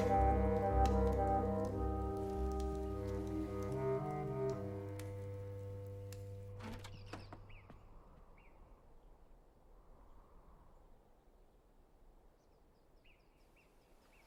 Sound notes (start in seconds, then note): 0.0 fire crackling; 7.3 wind whistling